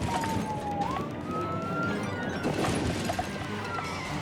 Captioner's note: siren blaring